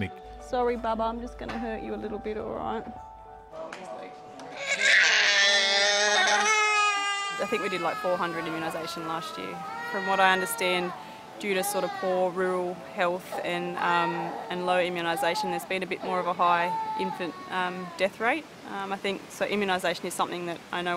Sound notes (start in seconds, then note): 4.5 cries